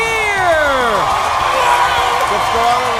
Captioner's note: audience cheering